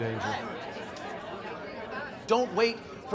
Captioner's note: overlapping chatter